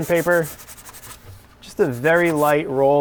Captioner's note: sandpaper scraping